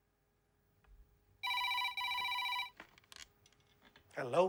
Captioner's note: phone ringing